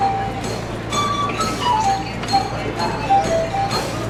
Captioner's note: murmuring & street music